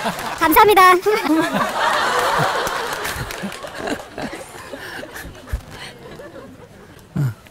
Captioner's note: audience Laughter